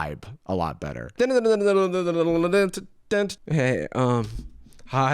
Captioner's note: vocalizes Pokemon battle music